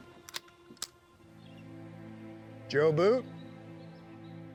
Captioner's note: gun cocks